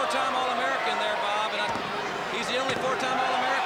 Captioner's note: crowd cheering